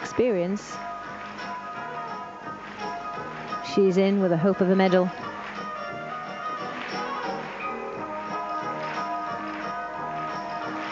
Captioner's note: applause